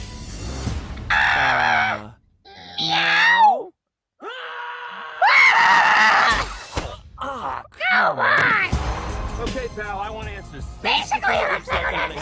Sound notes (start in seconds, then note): 4.2 scream